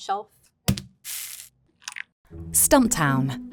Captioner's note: bag thudding and coffee pouring